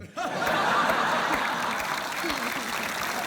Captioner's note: applause